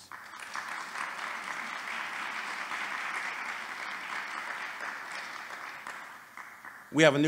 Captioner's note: applause